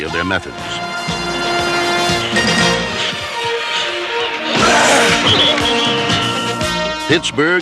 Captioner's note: crowd cheering